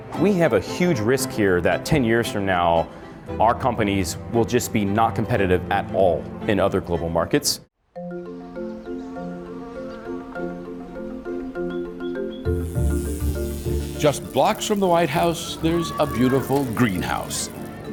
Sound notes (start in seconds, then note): 7.9 gentle music; 8.4 fly buzzing; 12.4 bike buzzing; 12.6 gentle music continues